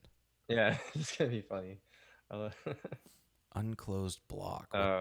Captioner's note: chuckles